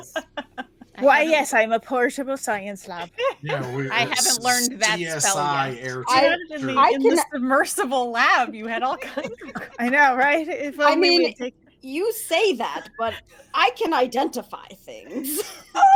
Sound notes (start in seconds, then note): 0.0 laughing; 8.6 laughing